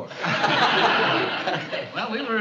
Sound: laughter

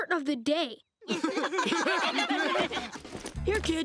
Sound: laughing

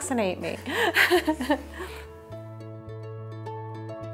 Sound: laughing; gentle music

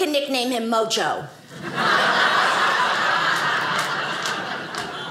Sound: audience laughing

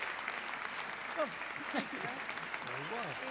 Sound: audience clapping; audience clapping continues; laughs

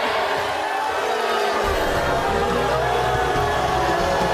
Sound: crowd jeers

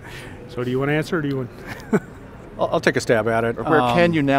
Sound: laughs

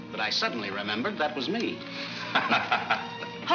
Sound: Bill laughs

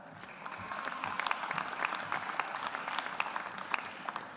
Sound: audience applauds

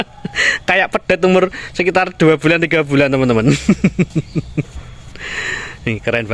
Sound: laughs

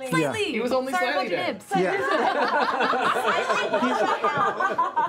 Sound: laughter

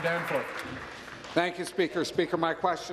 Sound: applause

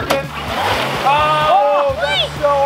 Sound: motor revving

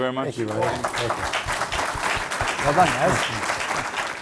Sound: applause

